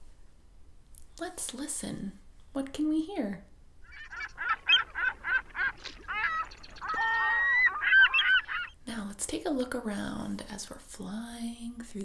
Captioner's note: animal sounds